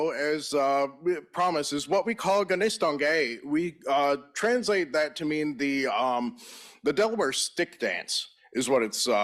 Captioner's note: in Native language